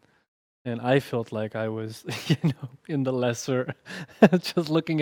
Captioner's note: laughs